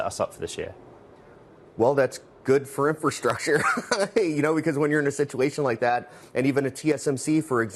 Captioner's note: laughter